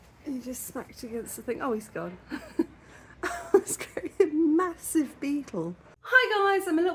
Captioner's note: laughing